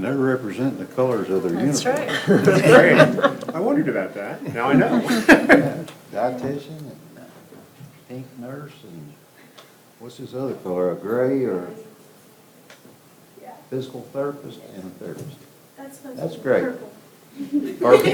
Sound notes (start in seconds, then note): 4.5 all chuckle